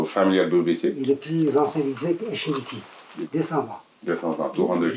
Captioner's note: French